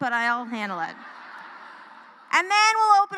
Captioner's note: laughter